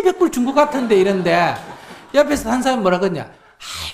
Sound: audience laughs

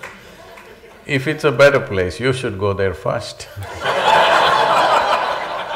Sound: laughter

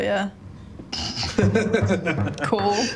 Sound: all laugh

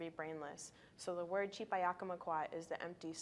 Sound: speaking in a foreign language

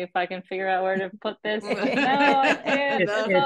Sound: laughter

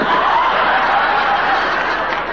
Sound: audience laughing

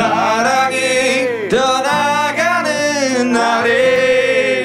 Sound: Suara serak

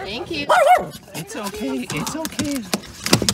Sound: roar

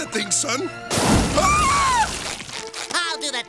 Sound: screaming

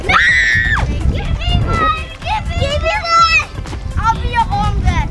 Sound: shouting over each other

